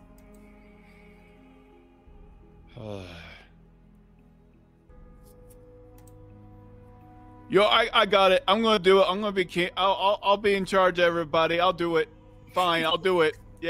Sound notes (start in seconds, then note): 2.7 sighs